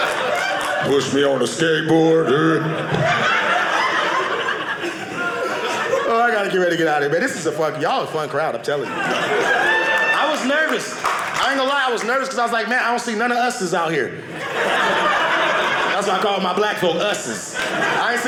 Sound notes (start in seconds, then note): 1.9 audience laughing; 8.9 audience cheering; 14.2 audience laughing